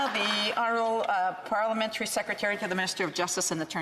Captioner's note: applause